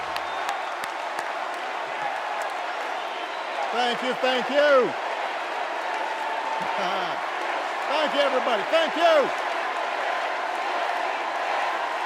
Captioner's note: cheers and applause